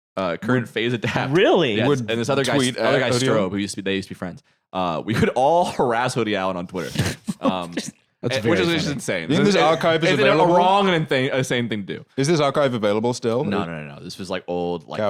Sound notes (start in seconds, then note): 6.8 laughing